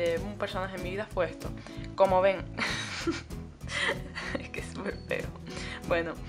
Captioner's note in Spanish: risas